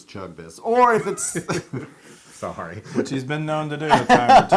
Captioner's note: laugh